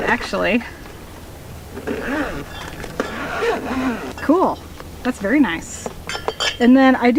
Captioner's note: zipper noises